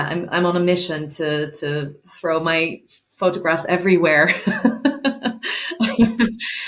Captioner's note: laughing